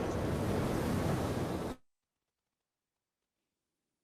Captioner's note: waves